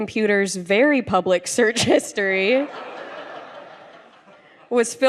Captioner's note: laughter